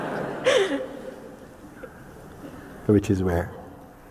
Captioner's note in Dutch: gelach